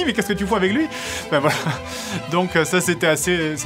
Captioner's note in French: rires